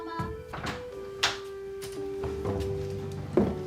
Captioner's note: door opening